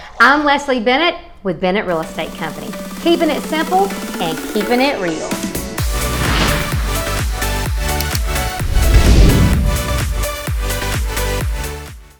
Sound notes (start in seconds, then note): 5.4 upbeat music; 6.3 whooshing